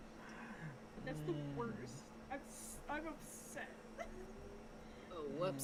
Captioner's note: giggling